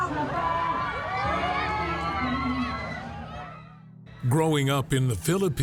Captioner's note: crowd cheering